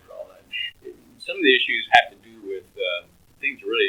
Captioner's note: laughs